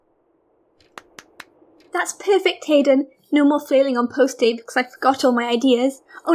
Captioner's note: claps